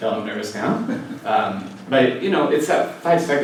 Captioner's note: laugh